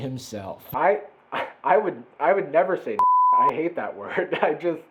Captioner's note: beep